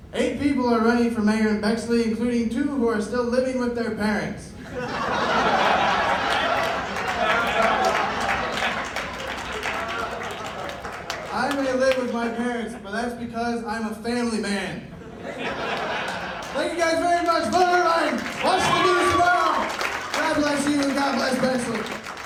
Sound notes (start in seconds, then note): 4.6 laughter; 14.9 laughter